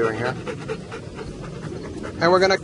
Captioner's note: dog panting